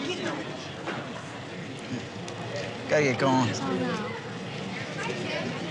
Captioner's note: crowd murmuring